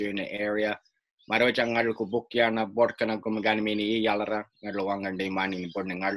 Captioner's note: speaking in a native language